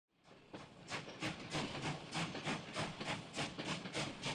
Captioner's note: train chugs